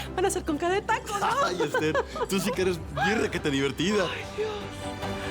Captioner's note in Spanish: Risas